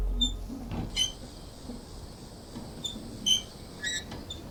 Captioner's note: bicycle wheel squeaks